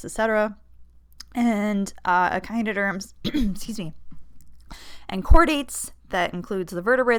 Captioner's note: clearing throat